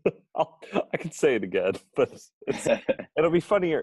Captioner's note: laughs